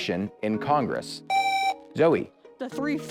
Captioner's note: buzzer